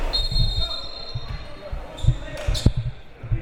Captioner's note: whistle